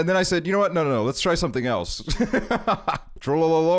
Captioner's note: laughs